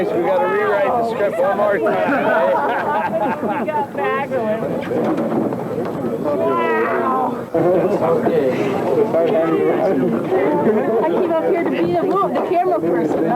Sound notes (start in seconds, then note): 1.9 laughter; 5.2 water sounds